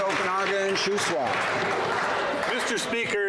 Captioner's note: some Applause